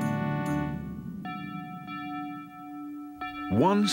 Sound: bell tolling

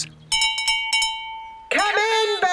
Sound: all chomping; bell rings

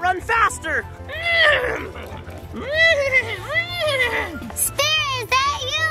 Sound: horse neighs

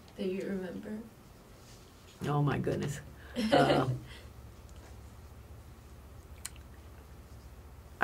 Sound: laughs

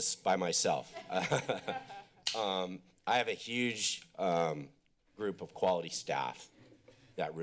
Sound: laughs

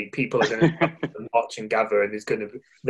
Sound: laughing

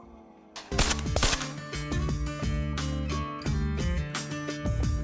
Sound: shots, acoustic music

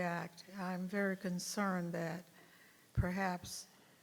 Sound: none

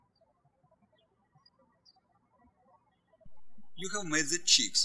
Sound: birds chirping

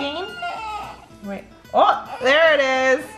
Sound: baby crying

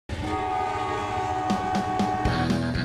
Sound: car horn

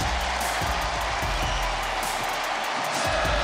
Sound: crowd cheers

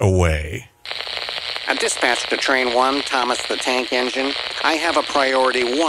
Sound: dispatcher's Voice

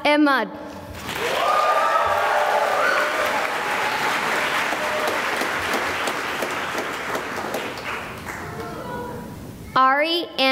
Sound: cheering and applause

